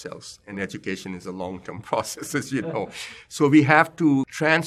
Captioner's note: laugh